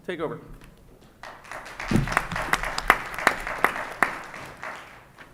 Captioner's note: audience applauds